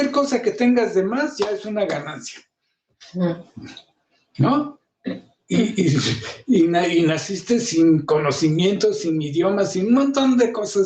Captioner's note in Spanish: carraspeo